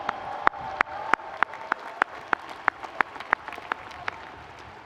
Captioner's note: audience applauding